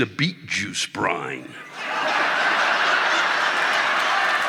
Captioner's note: audience laughing